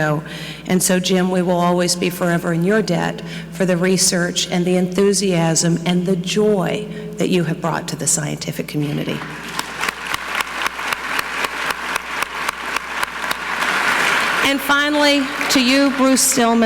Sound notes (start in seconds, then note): 9.0 audience clapping; 9.1 clapping